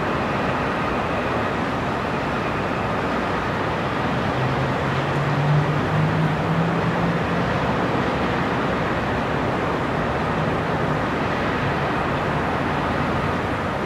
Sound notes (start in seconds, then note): 0.0 city sounds and distant cars